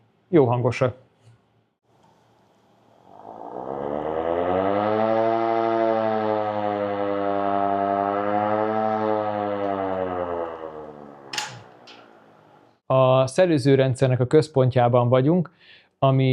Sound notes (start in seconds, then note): 3.0 portable siren alarming for danger